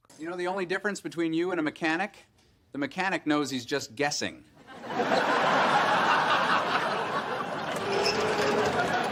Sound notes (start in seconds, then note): 4.6 Ghost Kramer laughs, and with him the audience